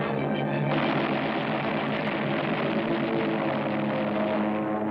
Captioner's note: heavy gunfire